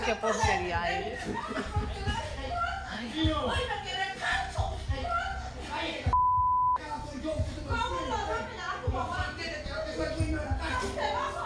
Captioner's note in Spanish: Comentarios al unísono